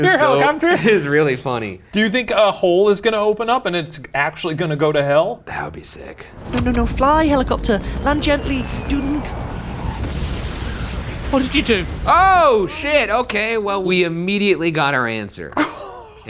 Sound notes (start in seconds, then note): 10.2 helicopter crashing